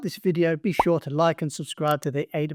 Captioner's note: bubbles popping